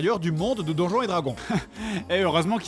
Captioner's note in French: rire